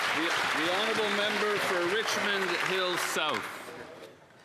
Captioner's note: applause